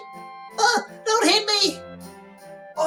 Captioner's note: yelps